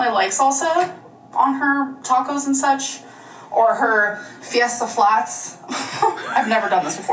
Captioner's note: laughs